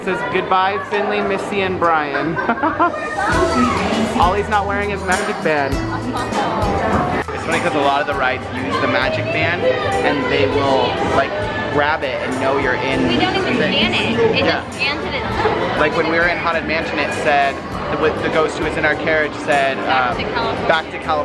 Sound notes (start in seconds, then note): 6.3 laughing